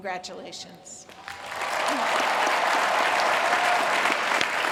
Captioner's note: applause